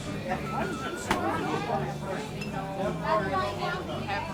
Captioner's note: people chattering